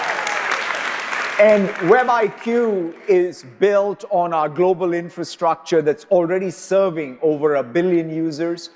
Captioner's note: applause